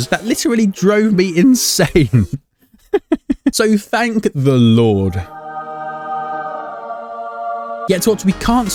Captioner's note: laughing